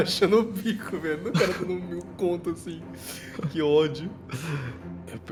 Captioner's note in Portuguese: risos